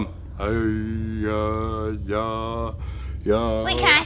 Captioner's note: moaning